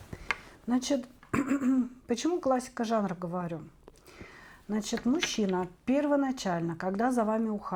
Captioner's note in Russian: откашливается